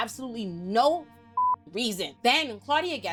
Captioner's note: beep